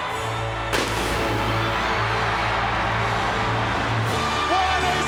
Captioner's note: crowd cheers; fireworks erupt